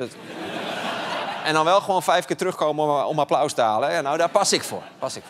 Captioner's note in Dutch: gelach